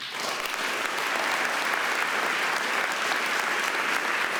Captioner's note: audience applauding